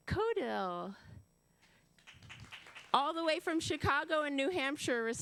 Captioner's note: applause